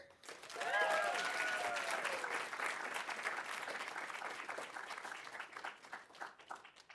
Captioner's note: audience applauding; audience cheering